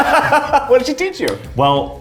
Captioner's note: laughs